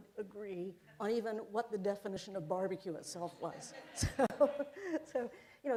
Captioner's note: laughter